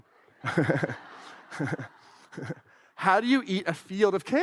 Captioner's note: laughs